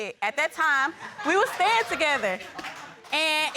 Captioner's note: audience laughs